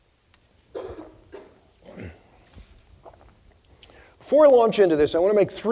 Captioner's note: audience member coughing